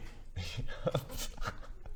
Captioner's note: nervous giggles